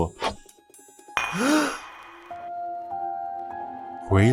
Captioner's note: gasp